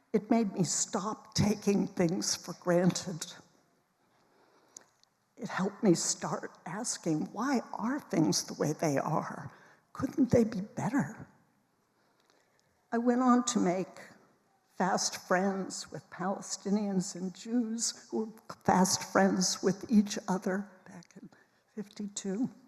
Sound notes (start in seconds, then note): none